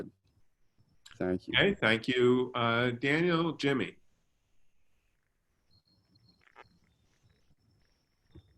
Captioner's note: long pause